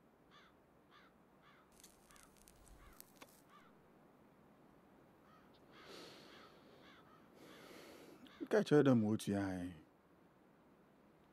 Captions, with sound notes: [crows cawing] [in Twi] I told you, that’s how much they pay.